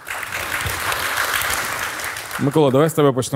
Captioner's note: the audience cheers